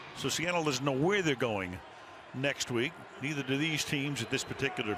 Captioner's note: cheering